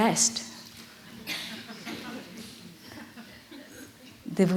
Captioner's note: laughter